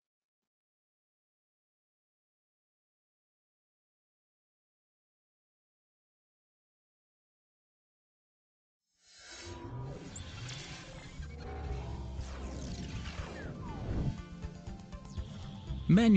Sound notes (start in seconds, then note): 9.2 whirring machinery; 13.8 dramatic techno music